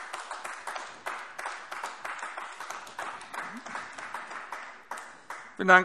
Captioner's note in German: Beifall AfD